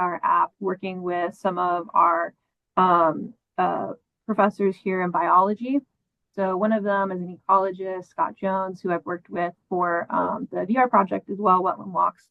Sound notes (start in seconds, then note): none